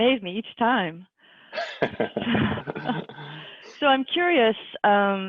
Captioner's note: laughs